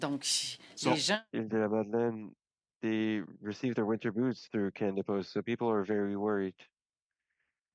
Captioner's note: speaking French